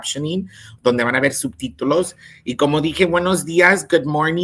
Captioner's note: speaks in Spanish